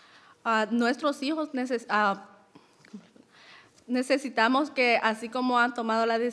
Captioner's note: speaking in foreign language